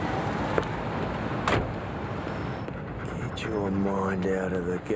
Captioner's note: van door shuts